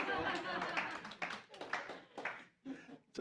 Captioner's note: applause